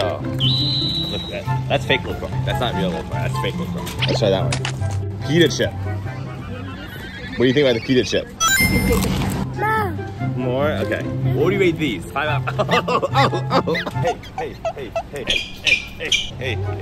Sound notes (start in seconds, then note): 9.4 crunch; 12.4 laughing